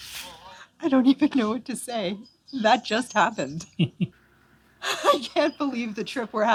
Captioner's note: laughter